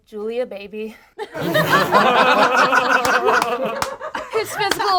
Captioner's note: group laughs